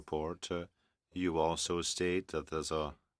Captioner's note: speaking french